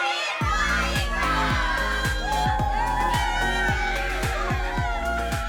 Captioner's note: cheering